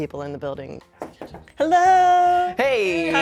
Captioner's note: knocking